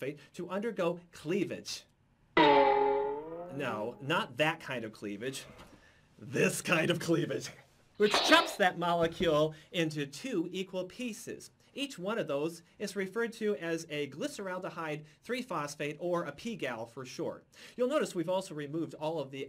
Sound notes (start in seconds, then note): 2.5 questioning "Boing!"